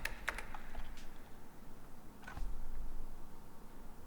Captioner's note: gate clicks